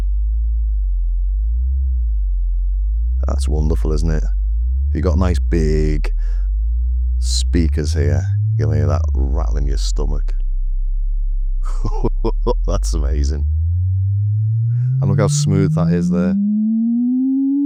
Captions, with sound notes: That's wonderful, isn't it? You got nice big speakers here. You'll hear that rattling your stomach. (laughs) That's amazing. I don't know how smooth that is there